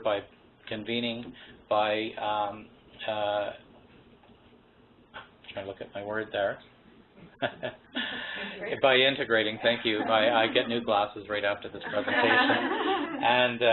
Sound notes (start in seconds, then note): 5.5 laughs; 11.8 laughter